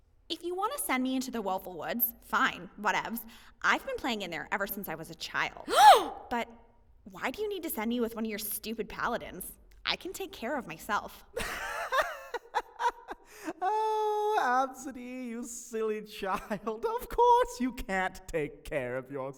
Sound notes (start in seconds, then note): 3.2 gasp; 11.4 laughing